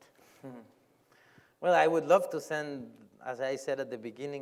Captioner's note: laughs